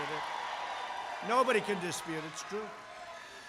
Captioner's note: applause